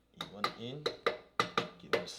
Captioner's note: hammering